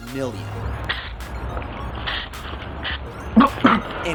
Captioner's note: spraying sounds; coughing sounds